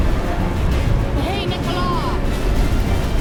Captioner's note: recites incantation